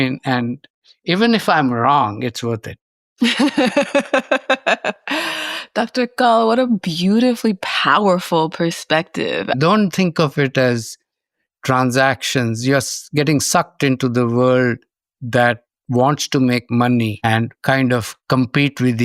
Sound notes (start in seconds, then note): 3.2 laughs